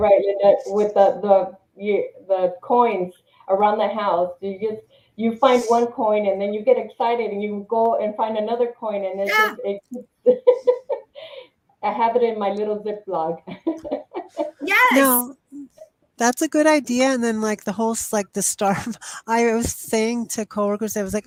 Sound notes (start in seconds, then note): 9.3 laughs; 13.5 chuckles